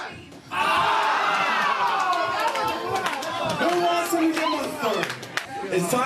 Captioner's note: clapping